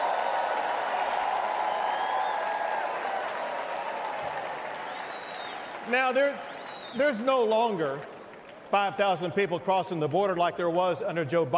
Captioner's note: cheers and applause